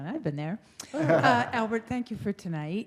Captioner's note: laughter